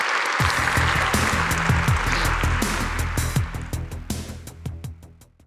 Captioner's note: audience applauding; upbeat music